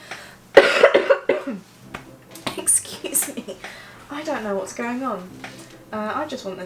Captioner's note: cough cough